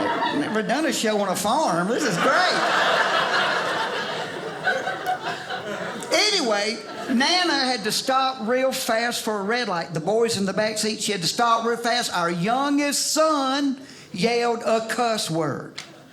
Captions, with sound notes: I've never done a show on a farm, this is great! (audience laughing) Anyway, Nana had to stop real fast for a red light. The boys in the backseat, she had to stop real fast, our youngest son yelled a cuss word.